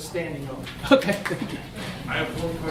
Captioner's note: laughs